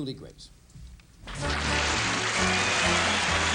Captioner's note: applause